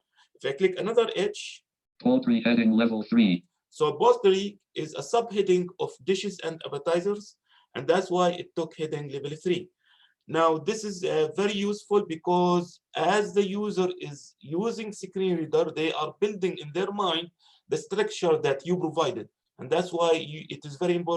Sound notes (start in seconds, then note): 1.8 automated Voice